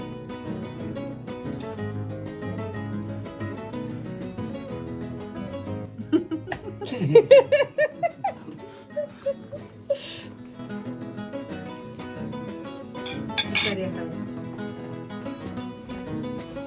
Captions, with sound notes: [giggles] This is with nuts.